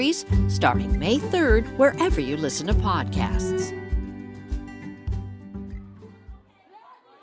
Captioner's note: sound of the library, footsteps